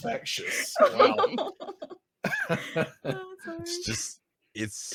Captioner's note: laughing